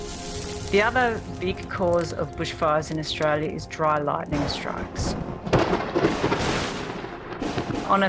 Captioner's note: sound of thunder